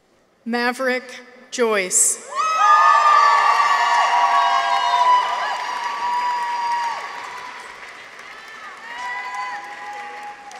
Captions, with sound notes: Maverick Joyce. -(people cheer) -(audience applauds)